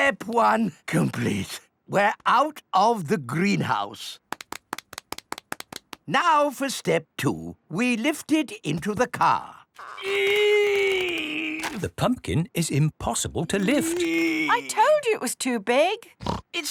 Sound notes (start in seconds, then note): 9.8 straining